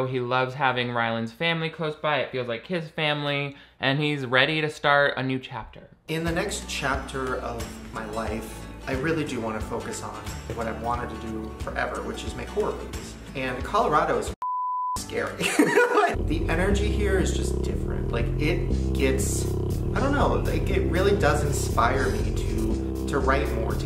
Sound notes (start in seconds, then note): 14.4 beeps; 15.4 laughs